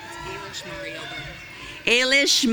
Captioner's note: audience cheering